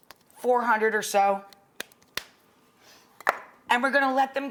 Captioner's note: cap clicks